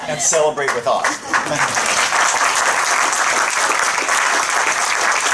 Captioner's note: applause